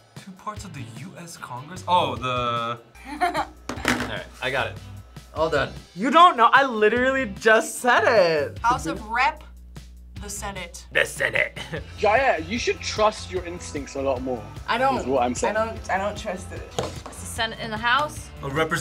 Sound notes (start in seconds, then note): 3.0 laughs